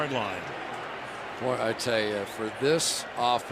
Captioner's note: pa announcement